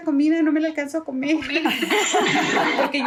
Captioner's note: laugh